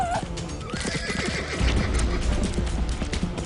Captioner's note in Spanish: Relinchos